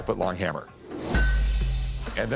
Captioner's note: clanks